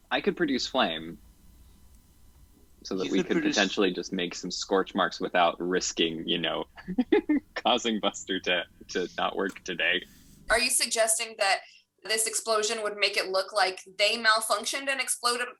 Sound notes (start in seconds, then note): 4.8 giggles